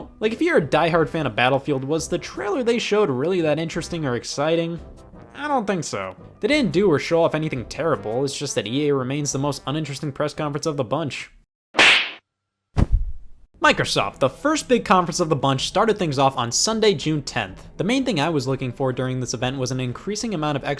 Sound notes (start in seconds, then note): 11.8 slap